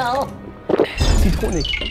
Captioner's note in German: Gluckern; Schlucken